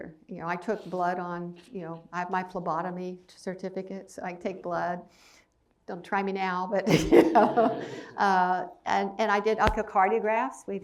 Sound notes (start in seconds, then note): 6.9 laughs